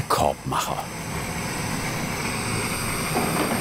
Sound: whirring of the burner

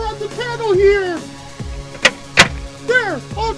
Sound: panel cover being put into place

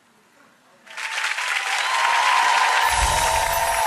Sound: applause

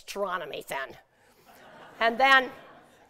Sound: laughter

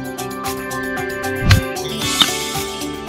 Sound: golf ball clinking; baseball bat clanging

